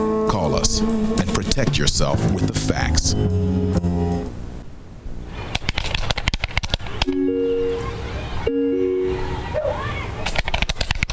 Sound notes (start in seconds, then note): 5.6 computer keys clicking